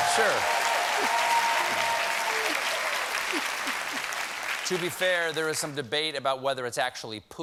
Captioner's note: applause